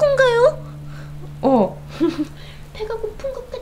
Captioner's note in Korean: 웃음